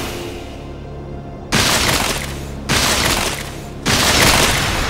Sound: crackling

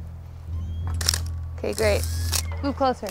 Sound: camera clicking

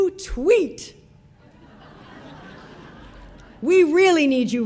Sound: audience laughing

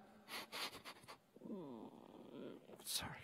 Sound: whimpering

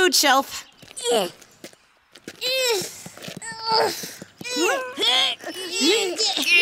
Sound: grunting

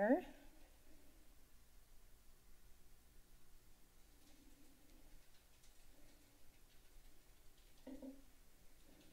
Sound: silence

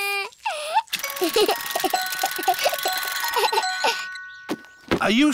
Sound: alexander giggles

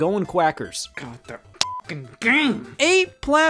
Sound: beep

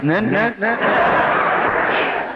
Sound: audience laughing

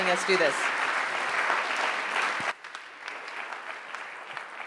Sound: audience applauding

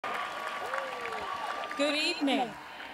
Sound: clapping and cheering

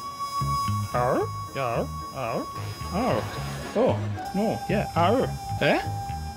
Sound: muttering

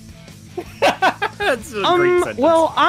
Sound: laughs

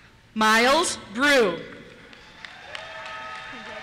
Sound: cheers

